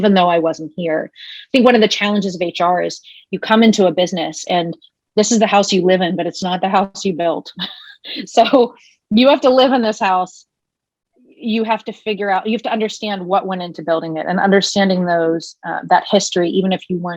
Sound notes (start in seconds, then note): 7.6 laughing